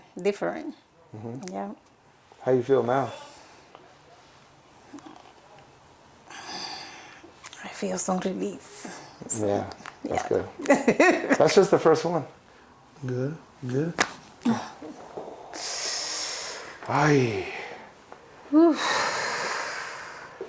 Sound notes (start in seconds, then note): 13.6 spine cracks